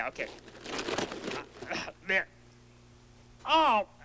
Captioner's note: tearing paper